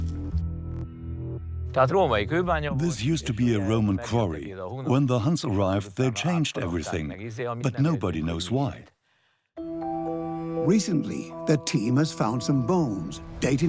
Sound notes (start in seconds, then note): 0.7 speaks Hungarian; 2.5 dubbed in English